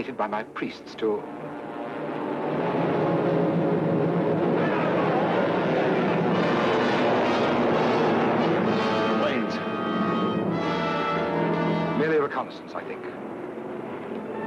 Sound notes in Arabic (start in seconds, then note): 2.1 هدير محركات الطائرة; 4.4 حشد من الناس يصرخون; 7.3 موسيقى درامية